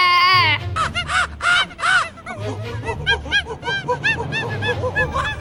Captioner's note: angy animal noises